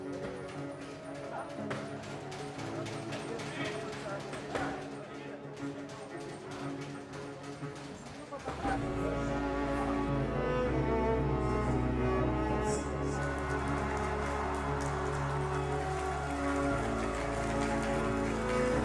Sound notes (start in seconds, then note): 0.2 dramatic orchestra music; 13.5 crowd applauding